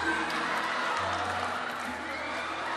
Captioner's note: crowd cheering